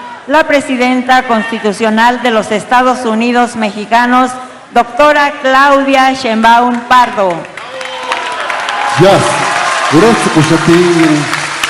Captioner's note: applause